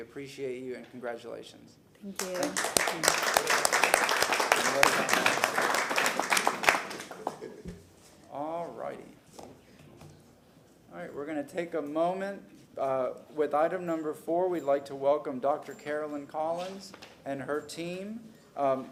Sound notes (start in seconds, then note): 6.4 applause